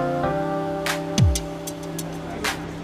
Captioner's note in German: Gespräche im Hintergrund